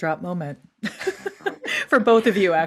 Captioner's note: all laughing